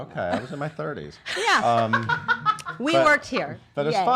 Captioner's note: laughs